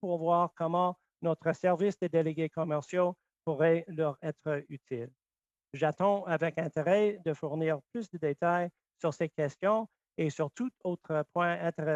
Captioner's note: speaking French